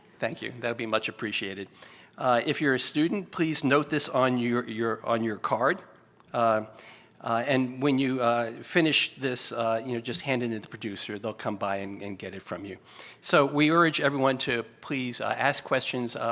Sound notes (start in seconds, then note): none